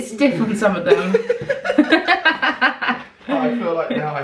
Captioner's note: both laughing